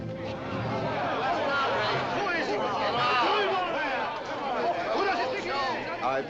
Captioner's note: cries and confusion in the audience